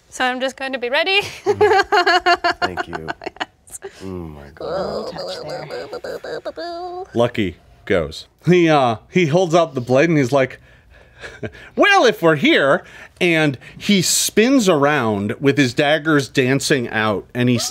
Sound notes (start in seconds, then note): 1.4 laughs; 3.8 player babbles